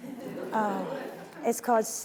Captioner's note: audience laughing